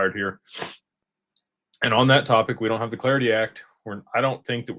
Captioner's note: snorts